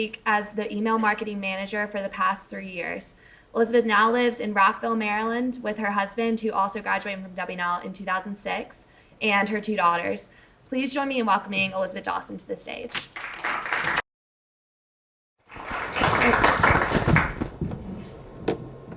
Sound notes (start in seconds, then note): 13.5 audience applauds